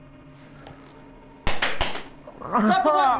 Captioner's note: gun fires